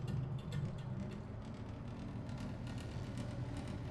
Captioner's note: heating vent rumbling